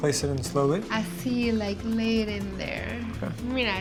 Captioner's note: speaking Spanish